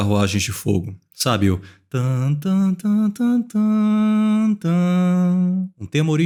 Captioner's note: hums melody quite badly